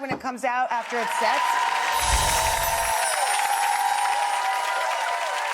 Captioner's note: crowd cheering and clapping